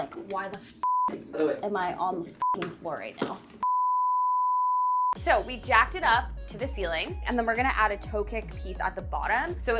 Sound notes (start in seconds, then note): 0.7 beeping